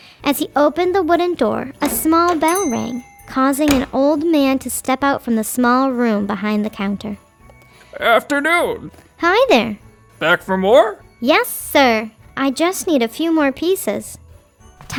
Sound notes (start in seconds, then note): 1.1 bright Christmas music; 1.8 bell dinging